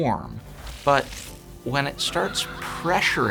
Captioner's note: ominous laughing